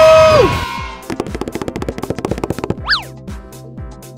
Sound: fast tapping

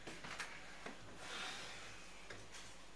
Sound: sighs

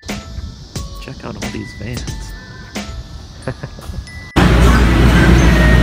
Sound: laughs

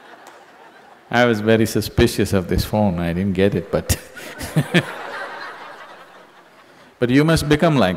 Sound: laughter; laughter

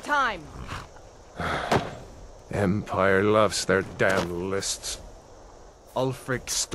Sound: sigh

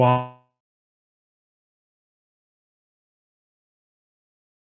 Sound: microphone fades

